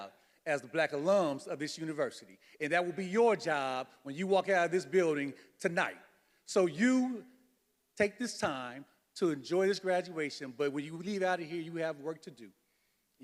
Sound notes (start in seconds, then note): none